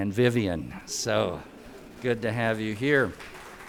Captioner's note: audience laughter